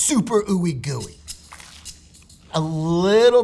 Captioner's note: rattling; sandwich rustling